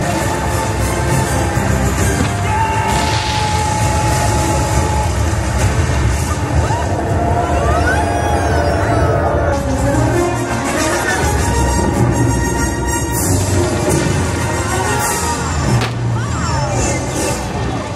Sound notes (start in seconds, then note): 0.0 energetic music; 6.0 audience members exclaim; 10.1 energetic music; 10.1 fireworks blast